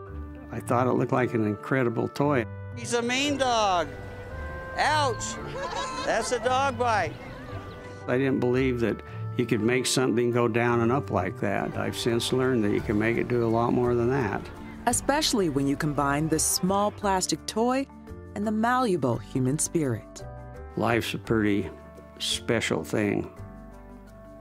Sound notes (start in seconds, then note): 5.2 crowd laughing; 14.4 voiceover